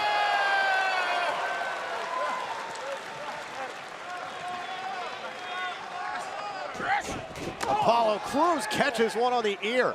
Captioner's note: cheers and applause